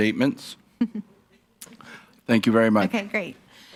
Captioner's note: chuckles